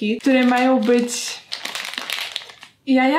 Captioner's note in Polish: szelest